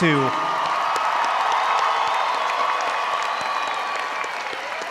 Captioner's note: audience applauding